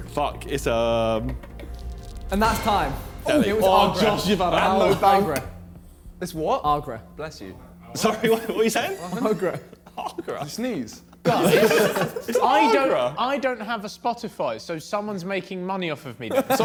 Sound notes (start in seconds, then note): 4.5 men exclaiming; 8.0 giggling; 11.3 men laughing; 16.3 men laughing